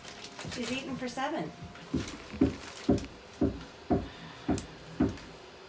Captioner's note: none